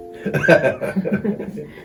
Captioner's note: laughing